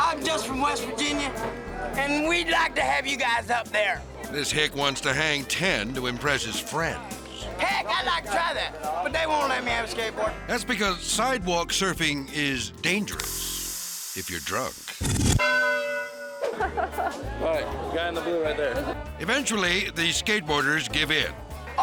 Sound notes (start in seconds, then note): 15.4 bell dings